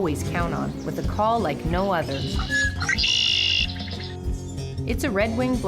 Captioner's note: bird call sounds